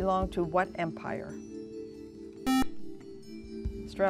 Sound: buzzer

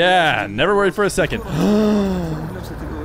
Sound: gasp

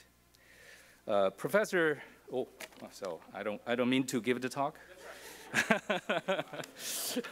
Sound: laugh

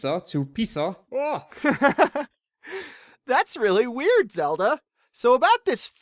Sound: laughs

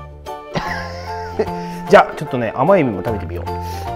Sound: laughs

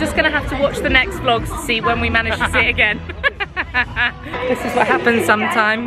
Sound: laughs

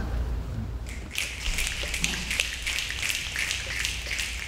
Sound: snapping

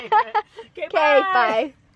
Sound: laughing

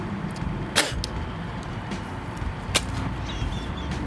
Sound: spits

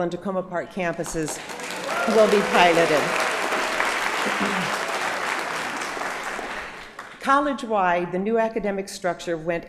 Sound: applause

